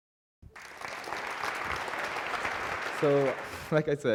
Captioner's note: applause